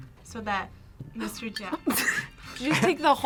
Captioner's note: React gasps